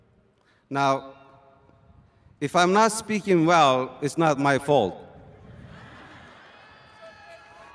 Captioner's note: laughter